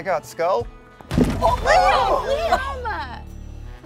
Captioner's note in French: bruit sourd de tête